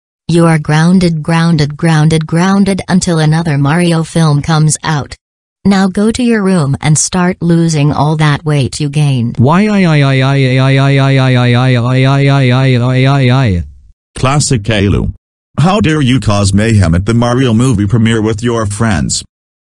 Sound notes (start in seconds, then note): 9.2 crying